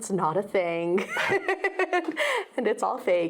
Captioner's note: laughs